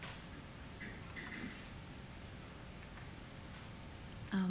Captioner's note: mouse clicking